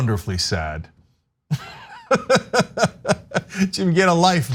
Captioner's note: laugh